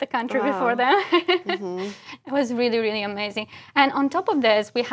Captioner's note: laugh